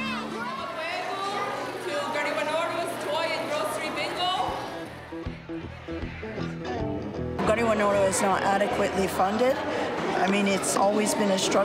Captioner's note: speaking native language